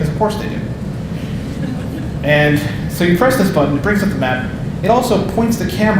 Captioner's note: audience laughing